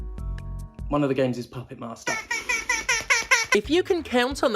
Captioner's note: sqwawk Sqwawk Sqwawk Sqwawk Sqwawk